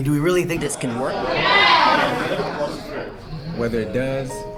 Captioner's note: crowd rumblings